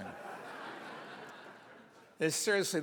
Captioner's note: audience laughs